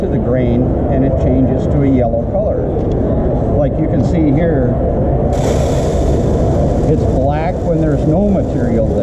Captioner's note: grain falling